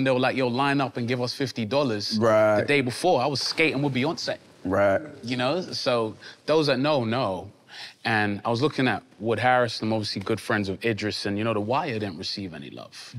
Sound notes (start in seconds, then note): none